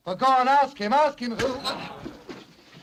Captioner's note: whack